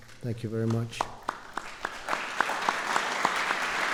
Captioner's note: applause